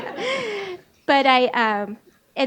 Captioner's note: laughs